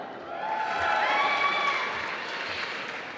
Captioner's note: applause